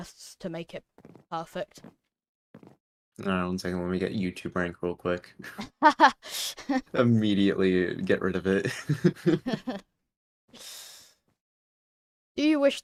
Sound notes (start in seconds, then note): 8.6 laughs more; 8.6 laughs